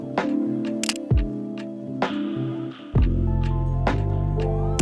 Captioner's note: camera clicks